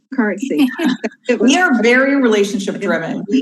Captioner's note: group laughs